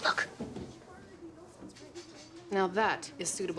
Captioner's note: patrons chattering